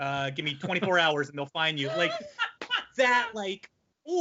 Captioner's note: laughing